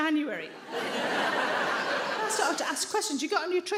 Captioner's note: audience laughs